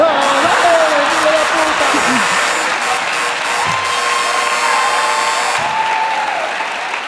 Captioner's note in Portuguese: campainha e aplausos